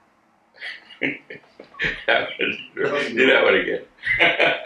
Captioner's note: laughing